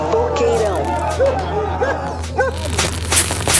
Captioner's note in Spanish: ladrido